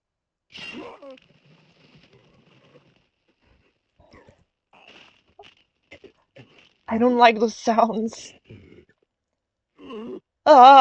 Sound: slicing and groaning noises

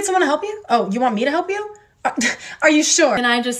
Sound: nervous laugh

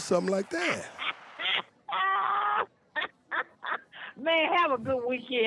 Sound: laughing mirthfully

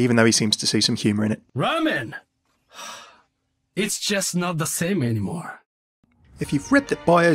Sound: sighs; voiceover

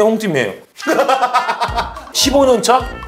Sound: hahaha

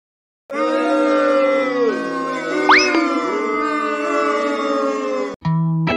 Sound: booing

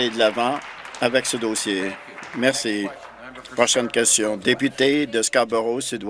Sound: applause

